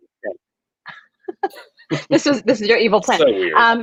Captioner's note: laughs